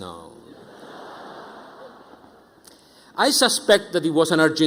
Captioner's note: audience laughing